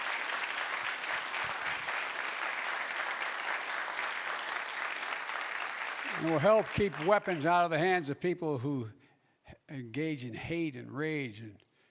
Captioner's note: applause